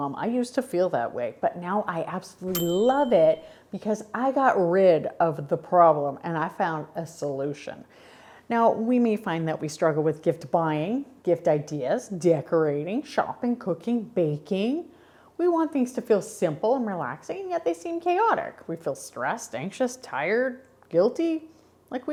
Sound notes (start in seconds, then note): 2.5 bell chimes